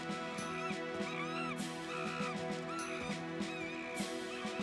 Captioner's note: monkey screeching